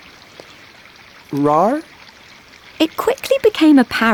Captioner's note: Paul lightly roars in confusion